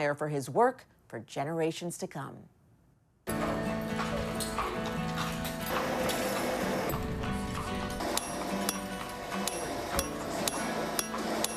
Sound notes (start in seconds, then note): 3.3 upbeat music; 8.2 metal clanking